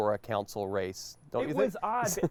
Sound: chuckles

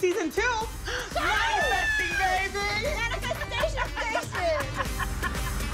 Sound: laughs; upbeat music

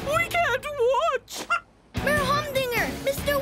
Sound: clucking

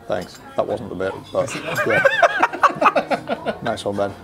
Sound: guys laugh

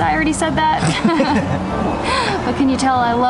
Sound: both laughs

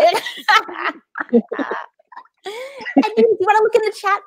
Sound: laughing

